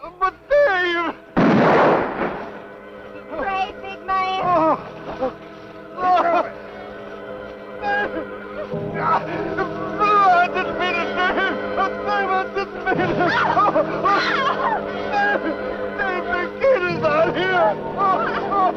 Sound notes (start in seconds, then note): 1.4 gun firing; 4.4 whimpering; 6.8 tense music; 13.4 both shouting